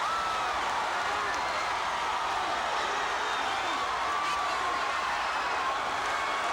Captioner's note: crowd cheering and applauding continues